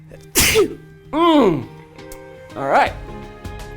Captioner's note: sneezes